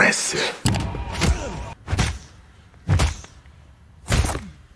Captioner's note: punching repeatedly